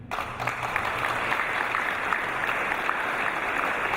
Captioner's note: applause